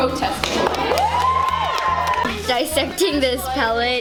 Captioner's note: students cheering